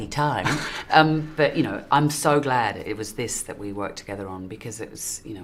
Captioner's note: laughs